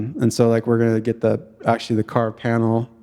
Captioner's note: none